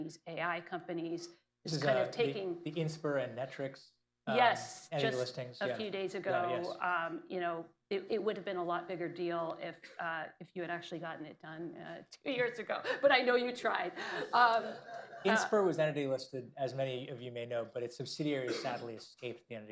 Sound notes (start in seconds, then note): 14.4 laughs; 14.6 laughter